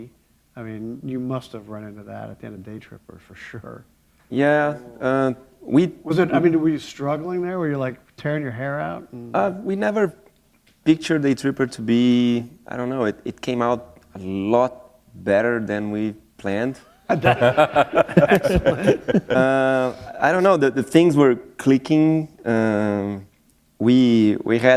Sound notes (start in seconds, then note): 17.0 laughter